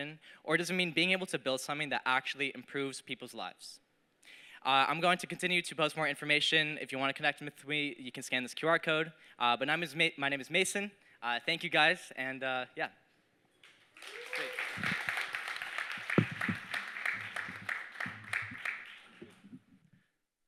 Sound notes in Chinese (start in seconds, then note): 17.3 掌聲